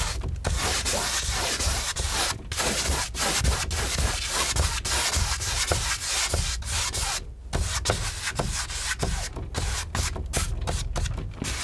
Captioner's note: scratching